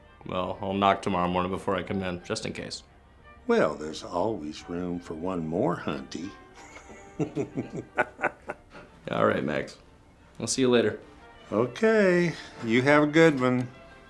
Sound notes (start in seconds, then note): 6.4 laughs